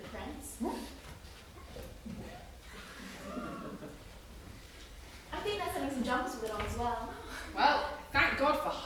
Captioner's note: MOLLY: retches